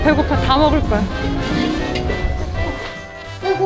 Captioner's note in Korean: 웃음